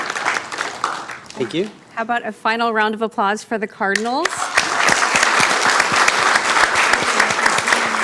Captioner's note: applause